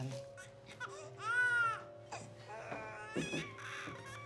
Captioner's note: baby cries